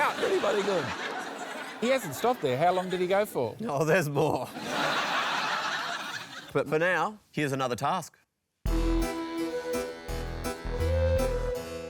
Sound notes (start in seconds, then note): 4.4 laughter